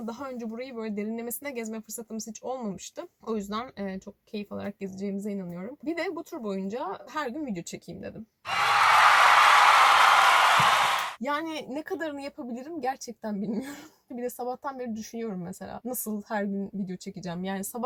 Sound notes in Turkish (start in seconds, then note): 8.4 Alkışefekti